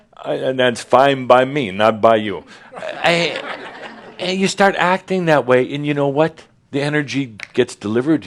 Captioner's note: more chuckles